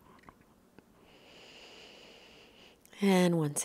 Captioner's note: breathing slowly